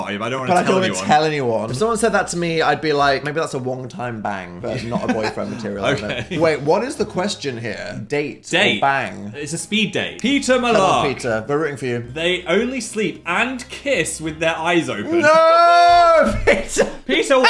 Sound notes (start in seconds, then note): 4.7 laughs; 15.2 laughs